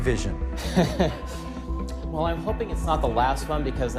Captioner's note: laughs